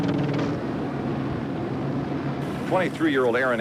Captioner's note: helicopter blades continue whirring